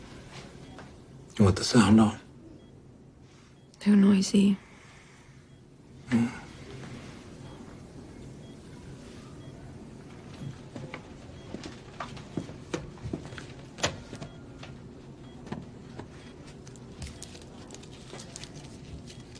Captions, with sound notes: -You want the sound on? -Too noisy. -Hm. [ Beeping continues ] [ Wrapper crinkling ]